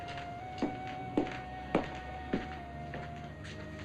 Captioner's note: footsteps